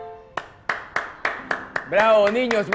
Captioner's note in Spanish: aplausos